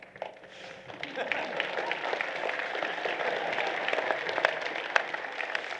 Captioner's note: applause